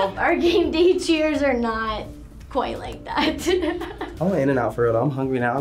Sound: chuckles

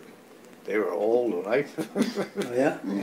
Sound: laughs

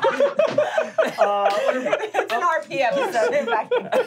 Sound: laughing

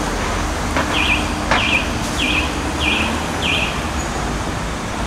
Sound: car siren

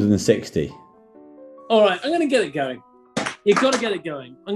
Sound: can clatters

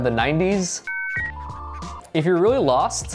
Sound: modem beeps

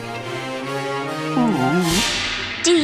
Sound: whining

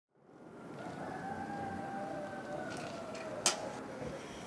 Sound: roosters crowing

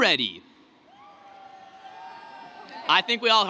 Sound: cheering

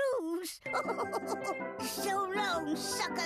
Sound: laughing

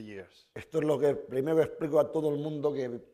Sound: speaking spanish

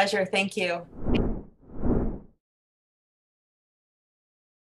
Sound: logo whooshes

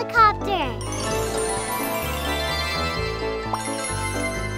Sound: transformation sound

